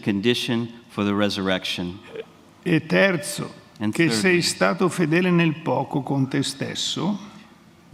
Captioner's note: speaks in Italian